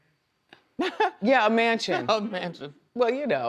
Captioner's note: laughs